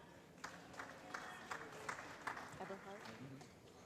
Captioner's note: applause